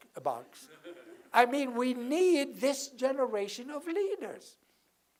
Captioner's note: laugh